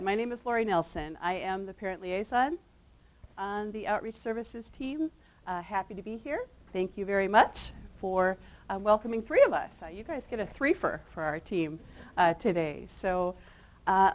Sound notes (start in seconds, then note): none